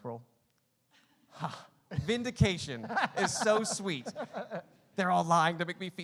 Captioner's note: laughing